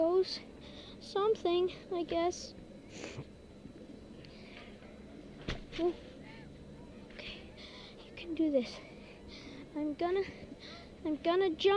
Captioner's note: sniffs